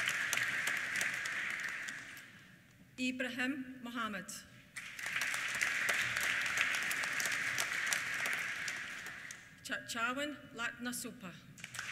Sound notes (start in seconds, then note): 4.7 applause; 11.5 applause